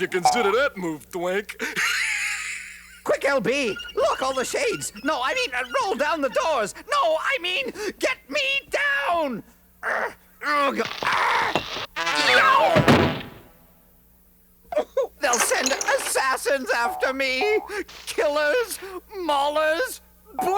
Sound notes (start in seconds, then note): 1.5 laughs; 8.4 grunting